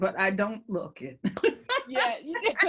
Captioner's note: laugh